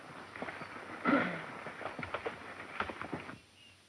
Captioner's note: horses walking